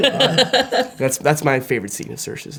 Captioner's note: Florence laughing